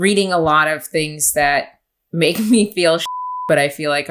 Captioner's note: beep